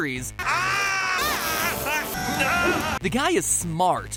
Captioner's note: cries of pain